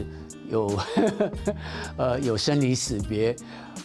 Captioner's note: chuckling